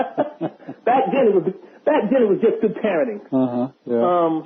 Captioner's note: laughter